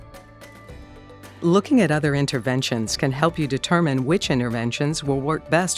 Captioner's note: voiceover